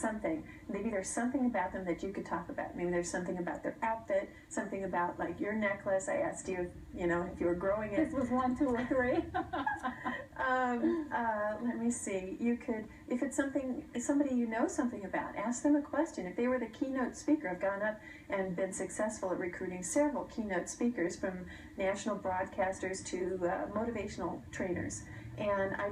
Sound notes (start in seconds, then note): 10.6 laughter